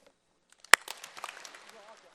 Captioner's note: applause